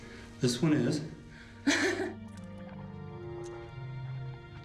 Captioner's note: laughs